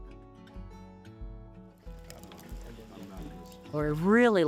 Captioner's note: chatter around fire